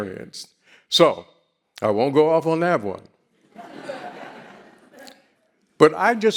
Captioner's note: audience laughing